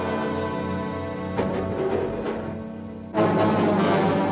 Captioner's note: clattering